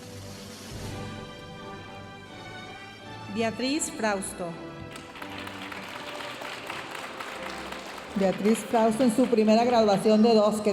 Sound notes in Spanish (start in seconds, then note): 0.6 continúa la música majestuosa suave en el fondo; 4.9 aplausos de la audiencia